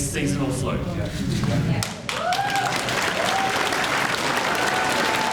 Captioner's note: crowd murmurs and cheers